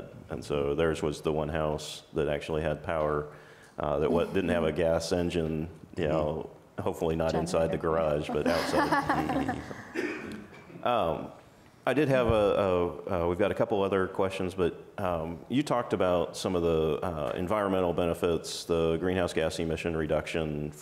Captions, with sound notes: And so theirs was the one house that actually had power that didn't have a gas engine, you know, hopefully not inside the garage, but outside. (panel laughs) We've got a couple of other questions, but you talked about some of the environmental benefits, the greenhouse gas emission reduction